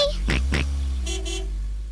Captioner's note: george oinks; car horn honks